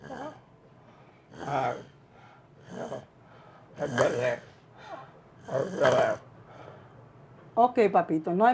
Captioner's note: wheezing, garbled speech